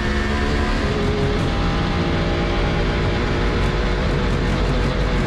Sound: engine roaring

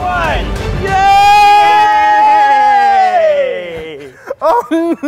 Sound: guys cheering; cry laughing

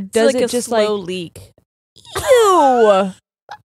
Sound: laughing

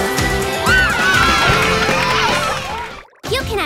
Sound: cheering

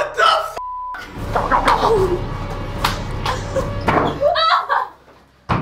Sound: whimpering

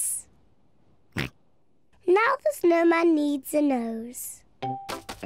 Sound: snorts

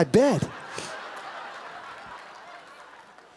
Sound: laughing

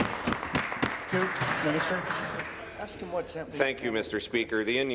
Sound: applause

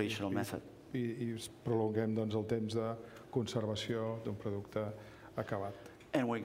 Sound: speaking catalan

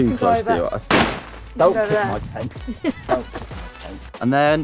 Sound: laughs

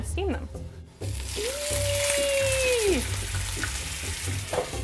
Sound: water sizzling

